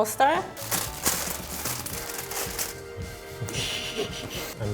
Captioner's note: tinfoil crinkling